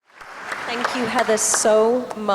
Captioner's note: audience applauding